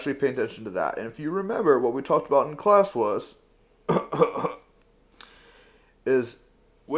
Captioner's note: cough